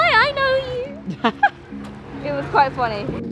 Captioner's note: laughs